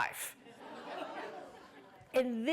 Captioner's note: laughter